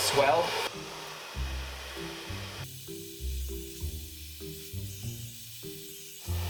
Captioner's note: soft music; air whooshing